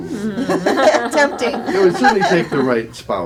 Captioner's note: laughter